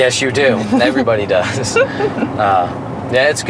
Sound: laughing

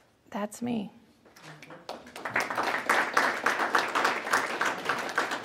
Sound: applause

